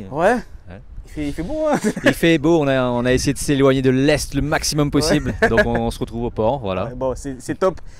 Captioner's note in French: rires